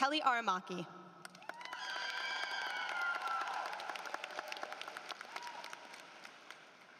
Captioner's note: applause